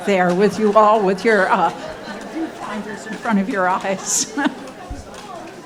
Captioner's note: speaking off mic